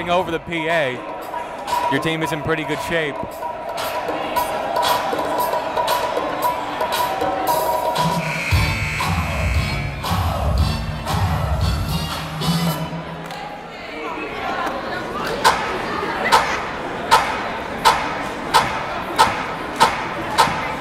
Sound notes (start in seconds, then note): 5.6 upbeat music; 8.0 buzzer blaring; 14.8 chattering